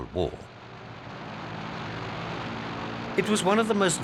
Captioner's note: plane roaring